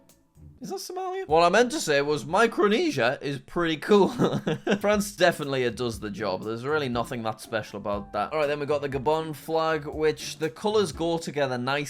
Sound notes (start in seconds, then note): 4.4 laughs